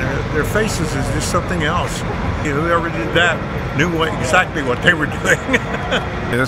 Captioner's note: laughing